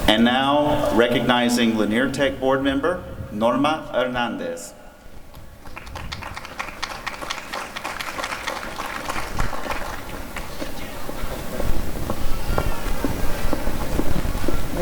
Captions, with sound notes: And now recognizing Lanier Tech board member Norma Hernandez. [applause]